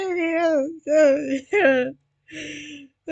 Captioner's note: incoherent laughing